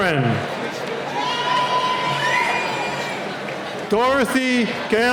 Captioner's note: cheering